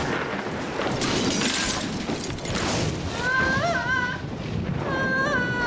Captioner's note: pane of glass shatters; Bonnie sobbing